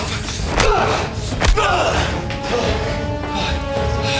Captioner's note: punches thudding